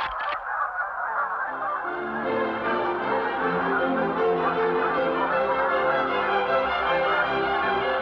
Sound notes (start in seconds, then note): 0.0 geese sounds